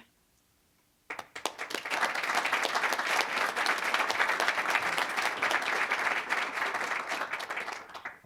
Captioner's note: applause